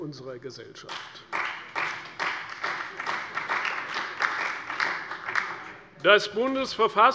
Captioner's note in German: Beifall bei der CDU und dem BÜNDNIS 90/DIE GRÜNEN